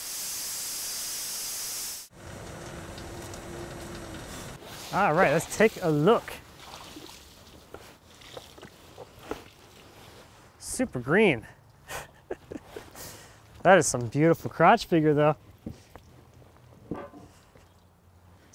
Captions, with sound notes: All right, let's take a look. (water splashing) Super green. (laughing) That is some beautiful crotch figure though.